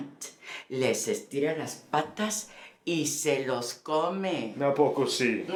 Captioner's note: Spanish